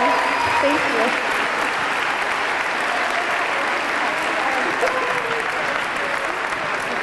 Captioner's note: audience cheering; audience clapping